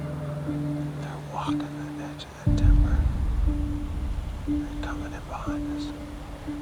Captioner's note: whispering